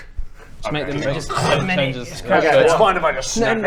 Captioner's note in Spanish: crrrrunch